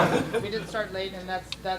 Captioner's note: audience laughs